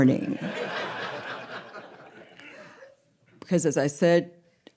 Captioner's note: audience laughing